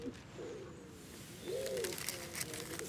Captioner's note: birds cooing, rustling